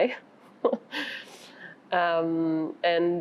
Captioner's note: laughs